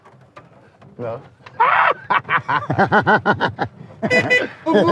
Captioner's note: laughing